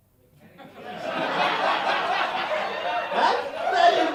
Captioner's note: laughter